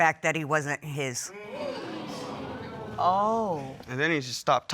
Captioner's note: audience gasping